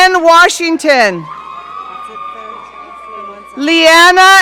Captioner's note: audience cheering